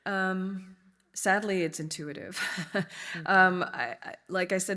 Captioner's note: chuckles